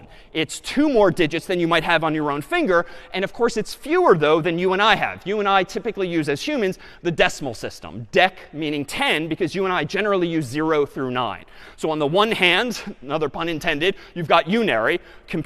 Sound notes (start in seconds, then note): none